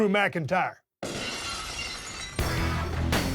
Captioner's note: glass shatters; heavy rock music